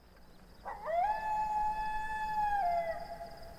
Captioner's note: coyote howling